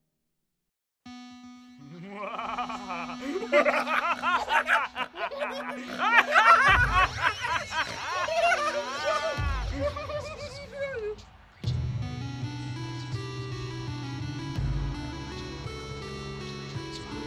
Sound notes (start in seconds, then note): 3.0 maniacal laughter; 11.6 music plays over montage